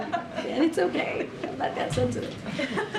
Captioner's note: laughter